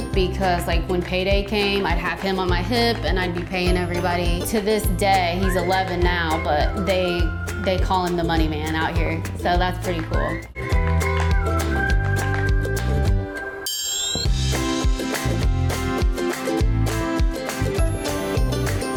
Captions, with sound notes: because like when payday came, I'd have him on my hip and I'd be paying everybody to this day, he's 11 now, but they call him the Money Man out here. So that's pretty cool. (upbeat music) (bell chimes)